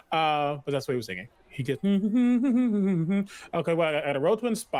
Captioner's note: hums tune